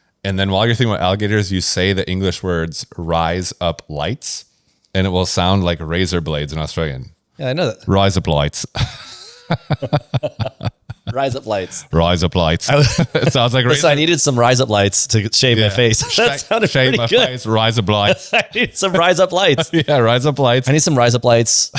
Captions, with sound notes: and then while you're thinking about alligators, you say the English words rise up lights, and it will sound like razor blades in Australian. -Yeah, I know that. -Rise up lights. [laughs] -[laughs] Rise up lights. -Rise up lights. [laughs] -I was- -It sounds like razor- -I said I needed some rise up lights to g- -Yeah -... shave my face. -Sh- -That sounded pretty good -... shave my face, rise up lights. -[laughs] I need some rise up lights. -Yeah, rise up lights. I need some rise up lights.